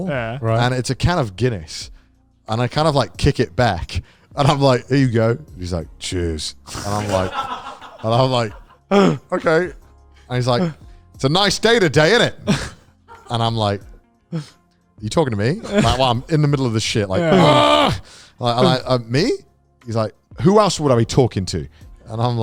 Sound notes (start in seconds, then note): 6.7 all laughing